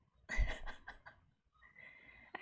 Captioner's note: laughs